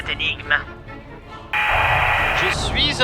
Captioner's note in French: Bruit parasite